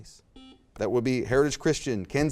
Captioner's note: buzzer beeps